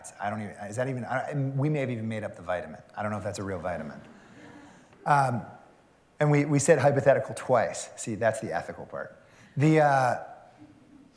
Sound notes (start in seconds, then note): 4.5 laughter